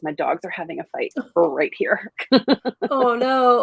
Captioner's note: laughs